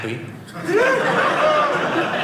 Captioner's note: audience laughing